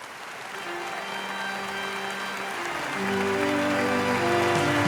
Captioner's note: audience applauds; spooky music